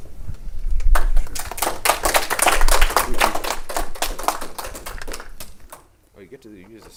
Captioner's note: clapping